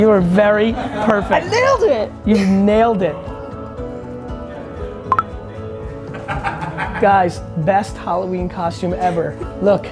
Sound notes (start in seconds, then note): 6.0 laughs